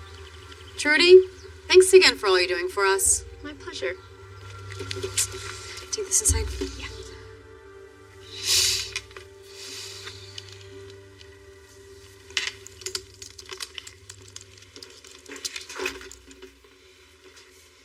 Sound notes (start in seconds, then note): 7.7 sniniffling; 12.4 laptop keysys tapping